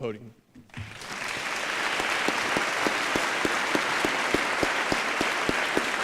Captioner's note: applause